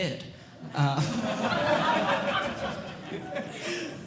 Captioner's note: audience Laughing